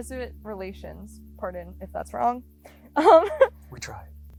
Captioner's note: laughs